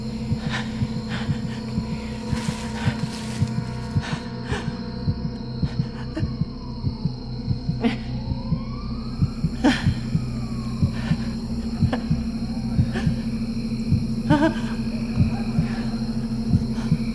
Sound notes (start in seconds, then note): 0.2 Caroline moaning; 6.1 police sirens blaring; 8.5 insects chirping; 9.4 police sirens blaring; 12.3 dramatic music; 15.0 police sirens blaring